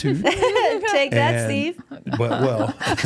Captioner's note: laughs